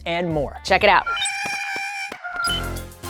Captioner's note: Porg noises